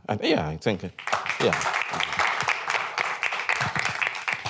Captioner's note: applause